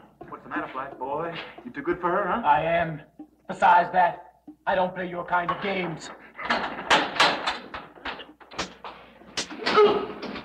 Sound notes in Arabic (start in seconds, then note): 6.7 ضربات قوية